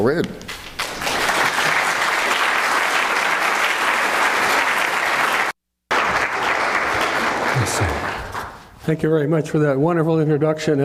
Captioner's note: applause